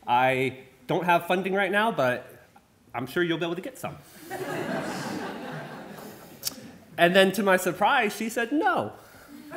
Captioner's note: laughter